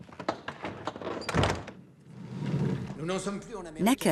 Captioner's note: doors creaking; Necker speaking in French